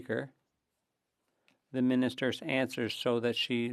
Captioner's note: speaking French